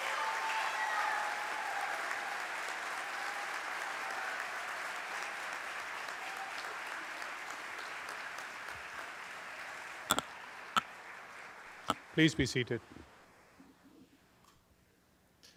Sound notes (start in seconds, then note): 0.0 cheers and applause